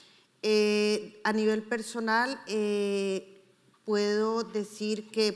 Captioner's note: speaking in foreign language